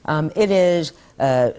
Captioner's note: none